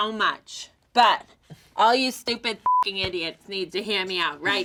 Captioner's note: beep